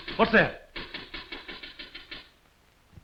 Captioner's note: knocking sound